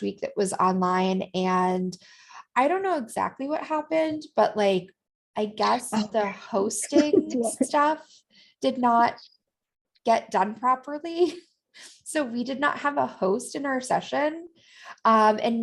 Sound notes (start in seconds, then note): 6.9 laughter